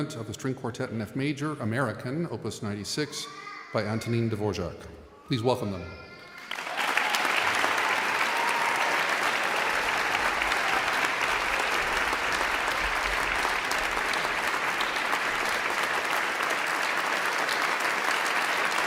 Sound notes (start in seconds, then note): 6.7 audience applauding